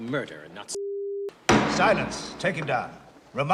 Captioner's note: bangs gavel